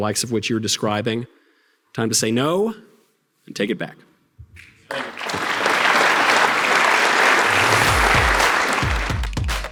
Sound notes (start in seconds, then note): 3.0 audience applause